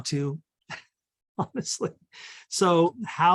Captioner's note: laughs